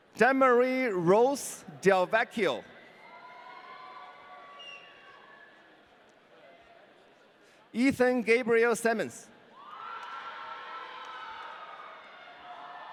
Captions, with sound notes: Demarie Rose Del Vecchio. (audience cheering) Ethan Gabriel Semmens. (audience cheering)